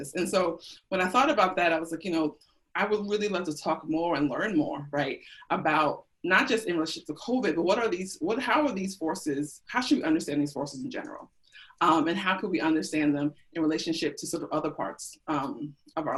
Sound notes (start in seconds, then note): none